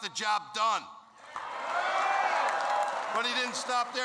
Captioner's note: applause